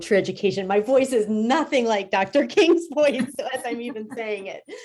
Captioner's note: laughs